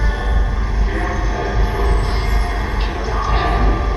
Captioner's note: ghostly voice